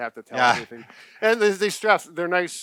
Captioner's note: laughing